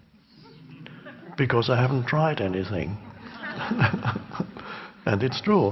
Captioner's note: chuckles